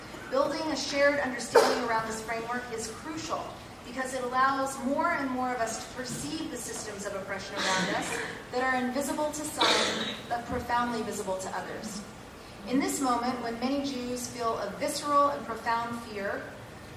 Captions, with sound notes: Building a shared understanding around this framework is crucial, because it allows more and more of us to perceive a systems of oppression among us. >> [COUGH] >> They are invisible to society- >> [COUGH] >> But profoundly visible to others. In this moment when many Jews feel a visceral and profound fear,